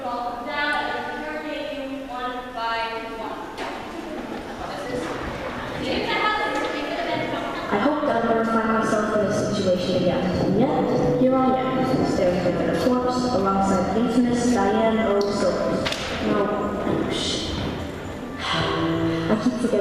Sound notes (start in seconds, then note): 18.1 sigh